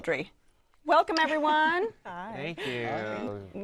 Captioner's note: laughs